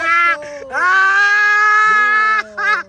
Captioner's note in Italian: Risate